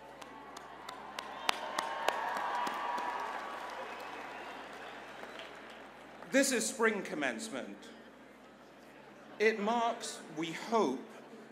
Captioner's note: applause